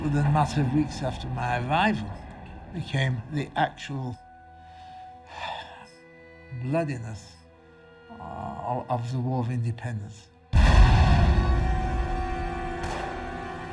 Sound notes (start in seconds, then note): 5.8 sighs; 10.4 ominous music